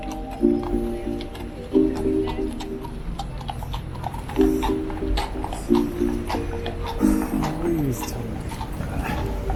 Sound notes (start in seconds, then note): 1.6 horse foot falls clomping